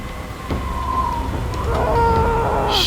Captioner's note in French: Cris étouffés de Loeb